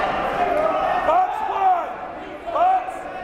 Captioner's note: yelling